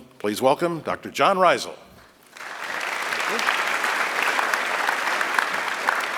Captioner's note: applause